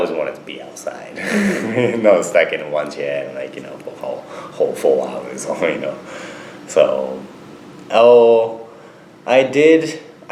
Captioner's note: laughs